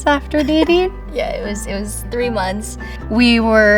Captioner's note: chuckles